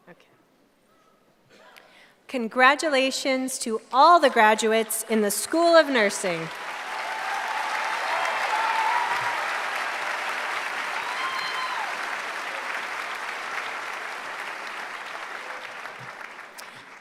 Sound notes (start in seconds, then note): 6.2 applause